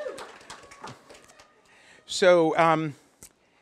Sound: applause

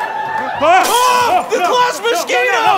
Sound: crash

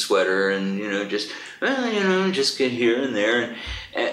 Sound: hums a tune

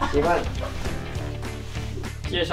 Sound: chuckles

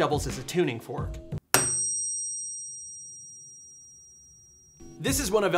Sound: high pitch ringing

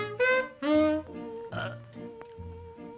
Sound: burp

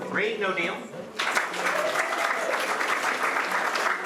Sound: applause

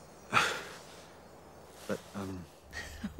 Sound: nervous chuckling

